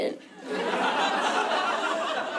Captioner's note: laughter